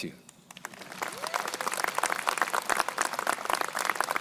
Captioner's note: crowd applauding